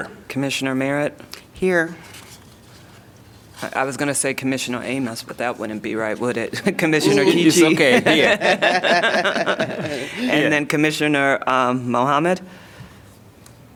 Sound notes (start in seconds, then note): 7.2 laughter